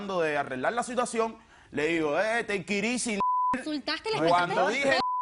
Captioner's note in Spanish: Bip